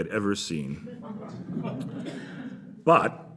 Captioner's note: laughter